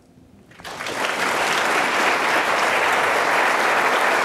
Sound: audience applause

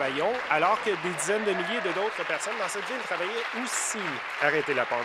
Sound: applause

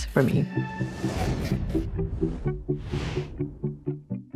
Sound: upbeat music continues; air whooshing; upbeat music continues

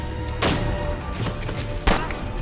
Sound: gun shot

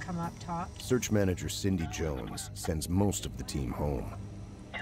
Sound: voiceover

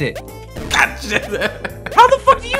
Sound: laughing

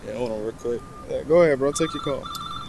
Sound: phone beeping

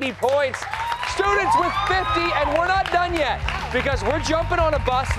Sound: applause

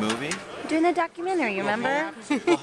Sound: laughter

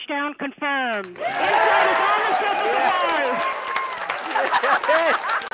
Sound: all emphatically cheering

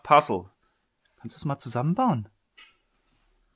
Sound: german

